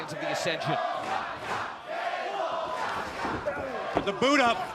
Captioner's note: fans chanting